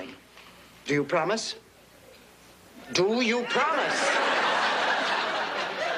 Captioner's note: laughs